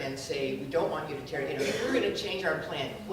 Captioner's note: speaking softly